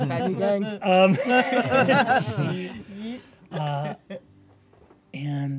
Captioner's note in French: rires